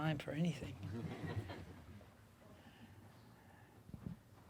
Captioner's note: audience laughing